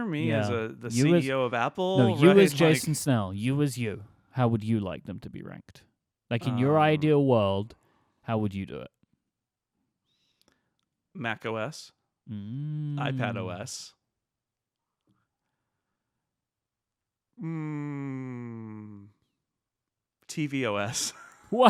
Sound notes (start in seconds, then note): 15.1 silence